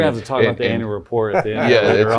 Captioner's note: laughs